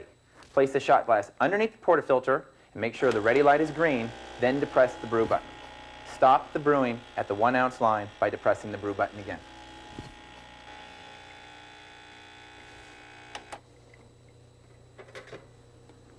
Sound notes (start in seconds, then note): 4.1 buzzing begins; 9.5 machine buzzing; 13.4 button clicks, buzzing stops